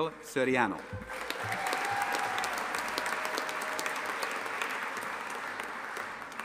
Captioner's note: audience applauding and cheering